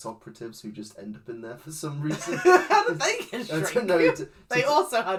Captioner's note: laughs